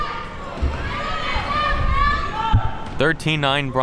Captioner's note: players talking and yelling